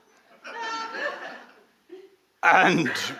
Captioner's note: audience laughing